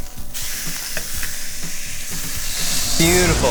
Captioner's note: burger sizzling